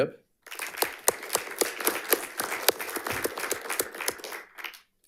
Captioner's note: audience applauding